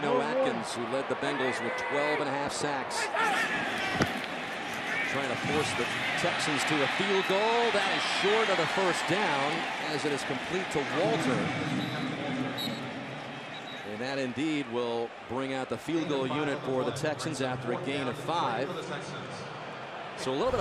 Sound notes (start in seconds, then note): 11.7 pa announcement; 12.5 whistle blows